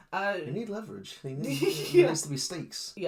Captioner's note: laughs